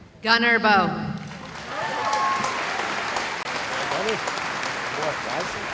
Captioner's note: cheering